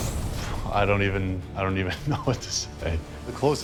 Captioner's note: laughs